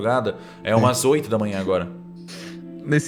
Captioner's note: laughing